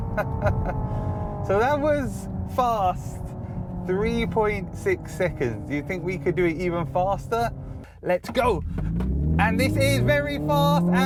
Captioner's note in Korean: 시뮬레이션된 엔진 소음